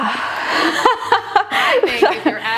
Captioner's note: laughing